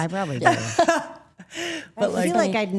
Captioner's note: Rhea laughs